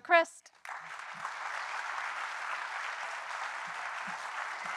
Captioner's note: audience applauding